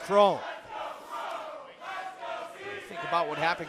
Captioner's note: fans chanting